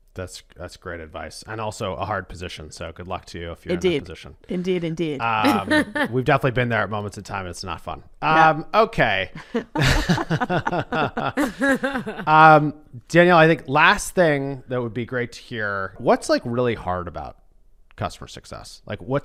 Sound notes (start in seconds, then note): 5.4 laughs; 9.4 laughter